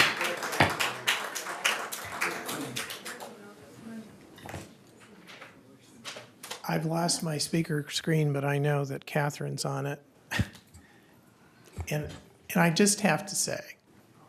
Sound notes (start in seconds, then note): 2.1 applause